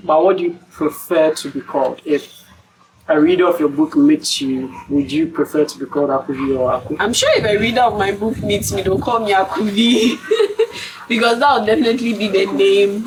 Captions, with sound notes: but what do you prefer to be called? if a reader of your book meets you would you prefer to be called Akuvi or Aku? I'm sure if a reader of my book meets me they'll call me Akuvi [laughs] because that'll definitely be